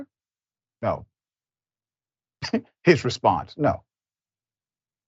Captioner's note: laugh